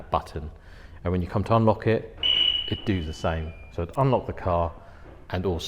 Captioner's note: beep beep